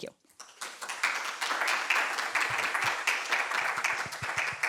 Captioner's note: applause